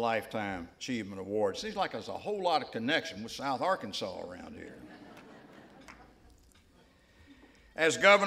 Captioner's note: laughter